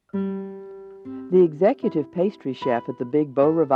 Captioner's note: voiceover